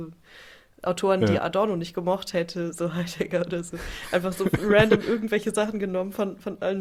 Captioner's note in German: gelächter